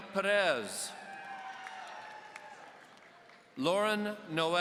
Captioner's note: audience cheering